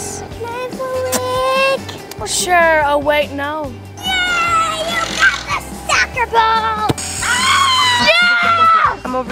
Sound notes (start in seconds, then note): 7.2 screams